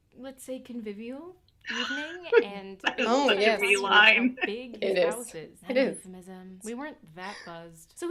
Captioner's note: laughter